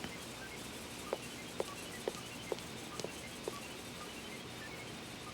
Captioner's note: footsteps leaving